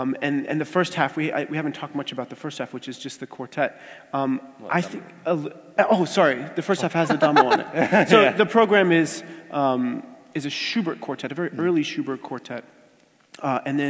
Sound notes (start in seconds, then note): 6.7 laugh